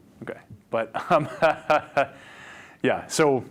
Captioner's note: laughing